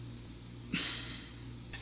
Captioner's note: constipated sigh